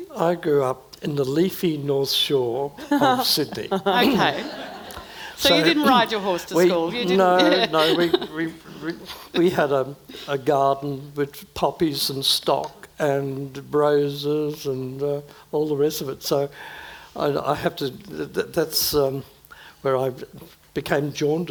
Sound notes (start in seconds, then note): 2.8 audience laughing; 7.2 laughs